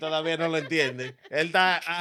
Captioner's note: speaking In Foreign Language